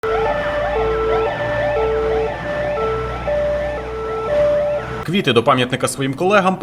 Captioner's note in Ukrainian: Звук сирен пожежних машин